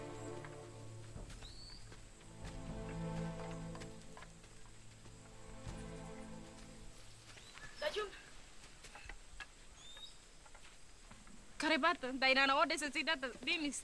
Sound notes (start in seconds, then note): 5.9 speaks native language